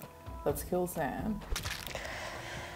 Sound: squelching

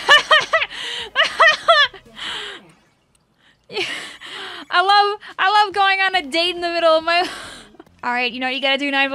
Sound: laughs; laughts

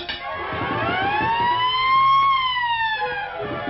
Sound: siren Sound

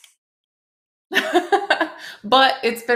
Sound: laughs

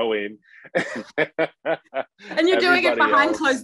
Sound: laughing

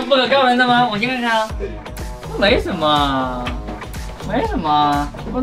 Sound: disappointed

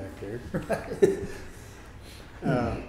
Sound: laughing

